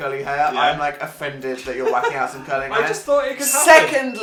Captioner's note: laughs